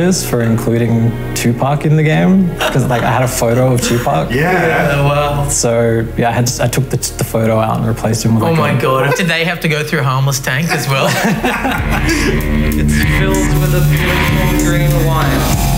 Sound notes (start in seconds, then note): 10.6 electronic music; 10.6 laughing